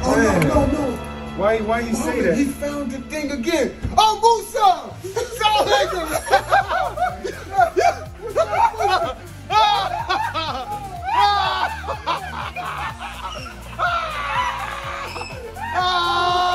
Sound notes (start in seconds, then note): 6.3 all laughing; 10.0 all laughing